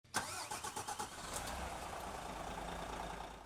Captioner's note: coach starting